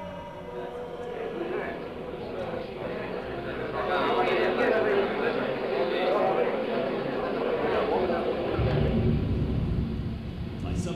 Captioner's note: crowd of voices